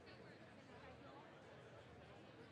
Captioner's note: none